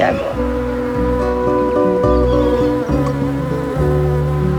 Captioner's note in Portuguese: Zumbido de abelha